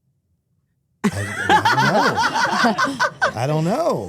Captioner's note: Stephanie laughs